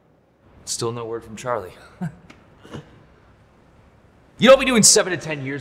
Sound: laughs sarcastically

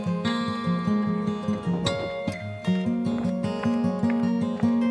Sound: sound of wind

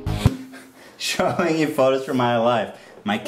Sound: chuckle

